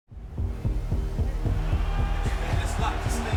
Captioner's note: tense thumping; crowd cheers